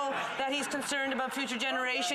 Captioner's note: some Applause